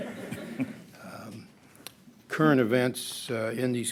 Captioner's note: laughter